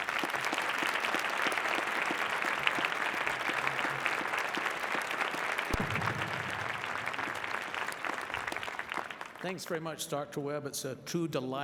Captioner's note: applause